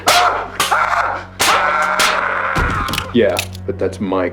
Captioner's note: yelling; clanging